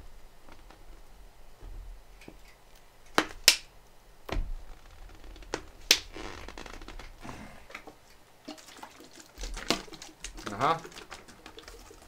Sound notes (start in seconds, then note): 2.1 clickette-click-prrrrph-click-prrrrrph; 8.4 water gurgling